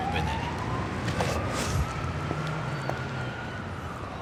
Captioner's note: siren wailing